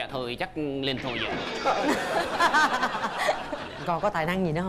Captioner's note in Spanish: risas